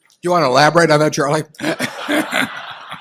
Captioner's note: laughter